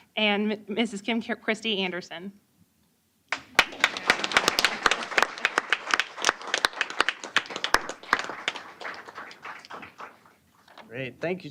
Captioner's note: applause